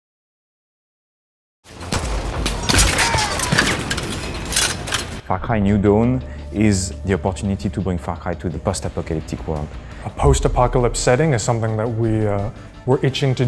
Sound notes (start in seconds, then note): 1.7 shooting sounds